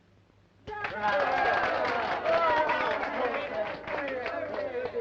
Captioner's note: applause and cheering